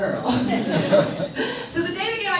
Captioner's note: audience laughs